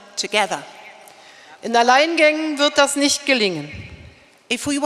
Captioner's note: speaking in German